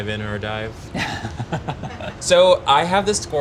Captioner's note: chuckles